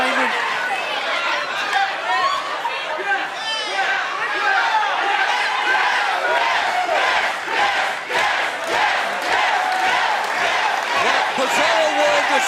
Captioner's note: crowd cheering